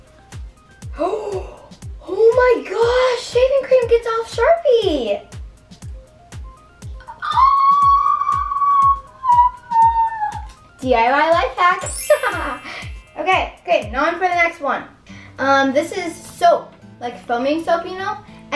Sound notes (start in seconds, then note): 0.9 gasps; 7.0 shrieking